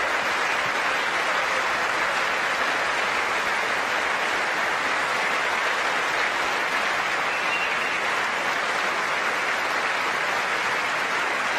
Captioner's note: applause